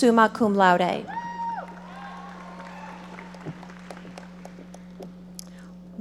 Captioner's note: audience applauding